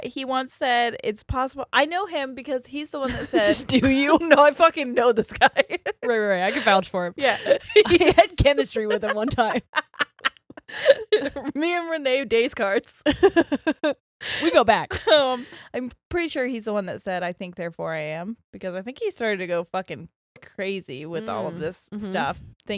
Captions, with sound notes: - He once said, it's possible. I know him because he's the one that said- - (giggles) Do you? - No, I fucking know this guy. - Right, right, I could vouch for him. - Yeah. - I had chemistry with him one time. (both laughs) - Me and Rene Descartes. - We go back. - I'm pretty sure he's the one that said, "I think therefore I am," because I think he started to go fucking crazy with all of this stuff,